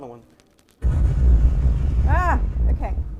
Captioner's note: boom explodes